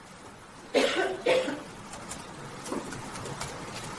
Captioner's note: coughing